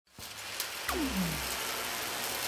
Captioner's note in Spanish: zumbidos